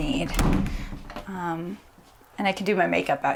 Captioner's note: door slams